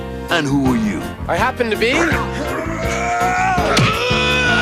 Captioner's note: grunting; yelling